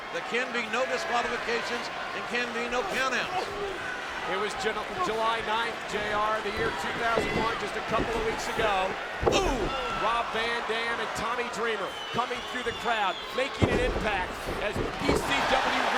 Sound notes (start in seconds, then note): 9.6 mat thumping